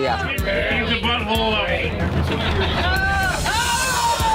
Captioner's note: bar chatter